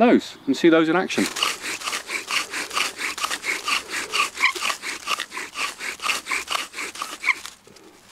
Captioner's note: wood drilling, sawing sound